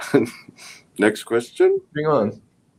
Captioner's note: laughs